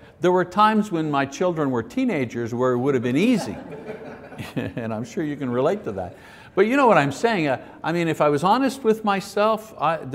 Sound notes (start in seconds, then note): 3.1 audience laughs